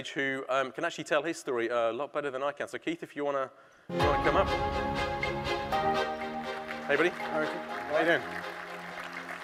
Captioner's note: applause